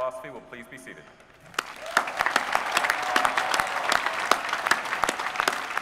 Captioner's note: applause